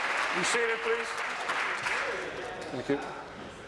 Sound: applause

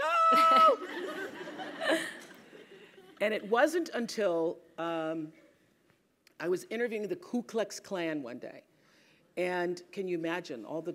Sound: laugh

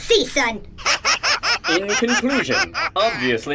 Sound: laughs diabolically

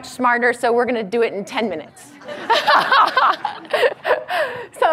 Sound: laughs

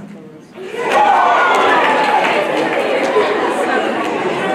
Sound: audience reacts

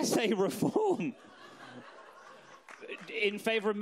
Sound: audience laughs

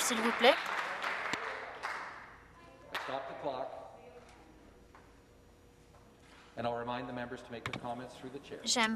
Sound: some Applause

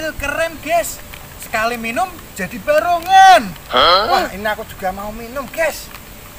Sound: clap

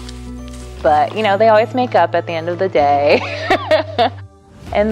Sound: laughs

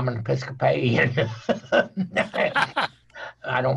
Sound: everyone laughing

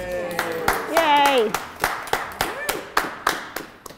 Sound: applause

